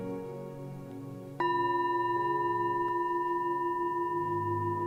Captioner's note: gong sounds